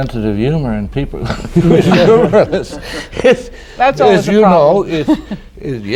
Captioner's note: laughter